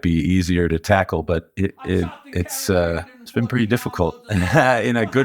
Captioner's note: chuckles